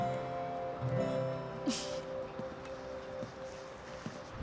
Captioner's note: Bea chuckles